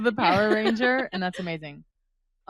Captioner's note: laughs